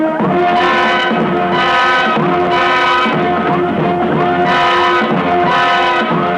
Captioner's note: dramatic music; electronic beeping